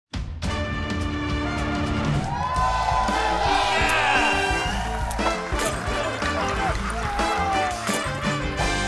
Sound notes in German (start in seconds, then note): 0.4 Flotte Bigbandmusik; 2.3 Jubel; 5.5 Schmerzensrufe; 7.2 Hämisches Lachen